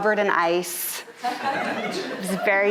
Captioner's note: audience laughing